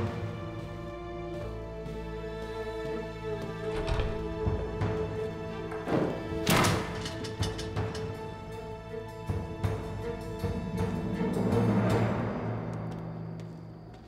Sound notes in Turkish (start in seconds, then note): 3.4 Kapı açılma sesi; 5.6 Kapı kapanma sesi; 7.3 Müzik - Gerilim